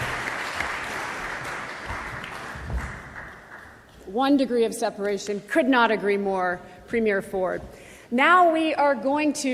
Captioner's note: applause